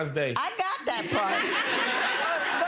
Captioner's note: laughing